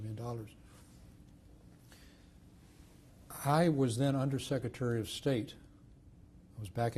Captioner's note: pauses for 3 seconds